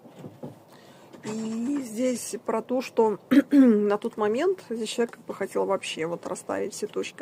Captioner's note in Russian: откашливается